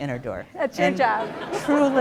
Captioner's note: laughter